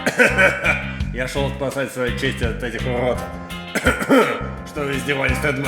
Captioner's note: coughs